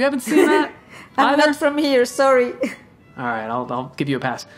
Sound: laughing

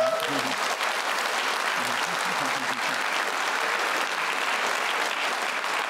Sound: applause

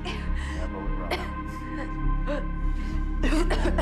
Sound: coughing

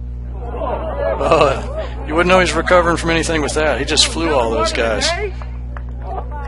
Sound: crowd claps

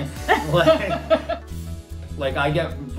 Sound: laughing

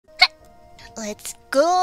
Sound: hiccup

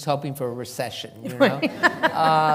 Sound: laughter

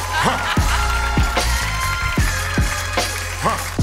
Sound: applause

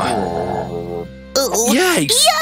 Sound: growls

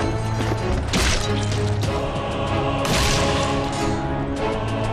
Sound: shooting

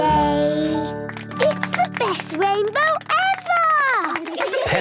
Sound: laughter

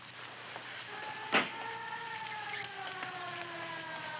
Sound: siren howling

